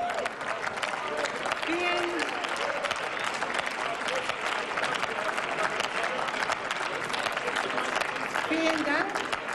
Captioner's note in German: Applaus